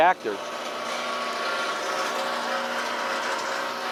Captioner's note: grinding noise